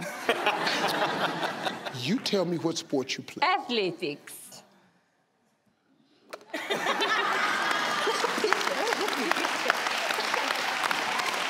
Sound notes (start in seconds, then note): 0.0 audience laugh; 6.5 audience laugh